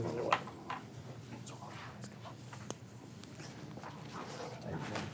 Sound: murmuring and movements

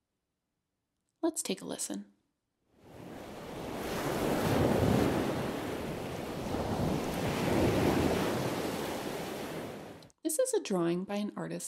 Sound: sound of waves

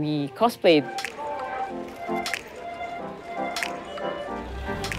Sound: people chattering

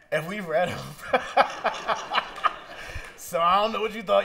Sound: laughter

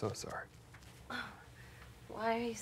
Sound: groans

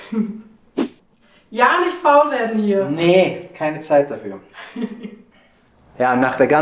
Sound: laughs

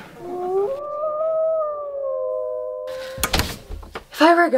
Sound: wolf Howls

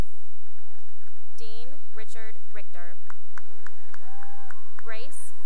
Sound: cheering and applause; cheering and applause

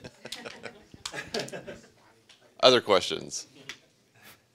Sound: audience laughing

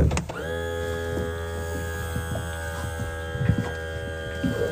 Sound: mechanical whirring

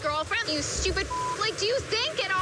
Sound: beep

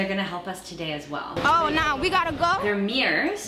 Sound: automated voice

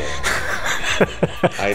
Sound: laughs

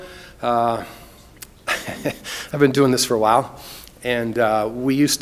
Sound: laughs

